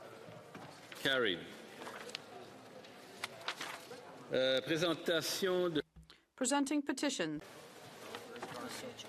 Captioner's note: speaking French